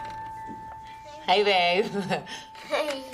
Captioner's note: laughs